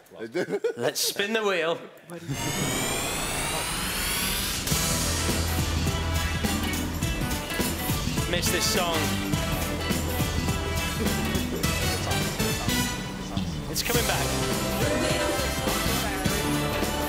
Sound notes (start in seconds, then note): 2.3 whooshing; 5.7 upbeat music